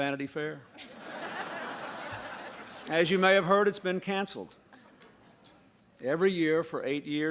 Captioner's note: laughter